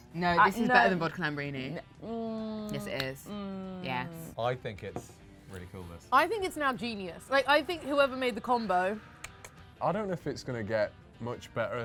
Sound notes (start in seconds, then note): 9.2 clicks tongue